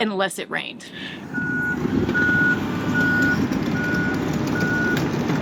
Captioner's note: vehicle beeping